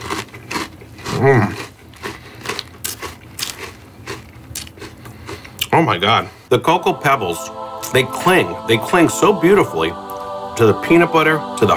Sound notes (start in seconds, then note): 1.4 moans; 6.5 heavenly choir singing